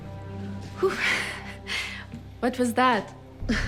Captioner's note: chuckles